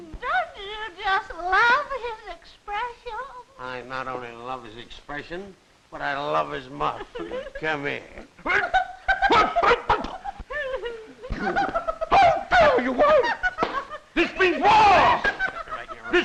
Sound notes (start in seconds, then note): 8.5 gasps